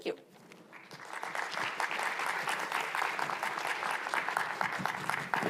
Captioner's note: attendees applauding